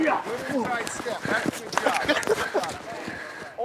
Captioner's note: laughs